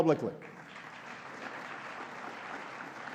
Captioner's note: applause